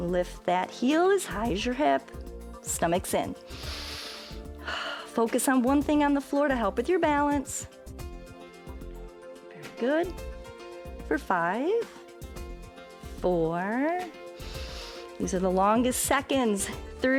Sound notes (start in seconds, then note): 3.4 inhales and exhales